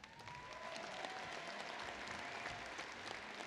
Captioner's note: applause